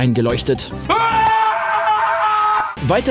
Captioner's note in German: lauter Schrei